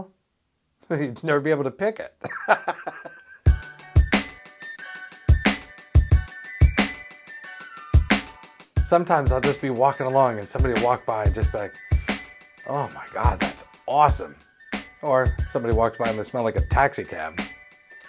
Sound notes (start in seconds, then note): 2.2 laughs; 3.4 credits music; 11.8 sniff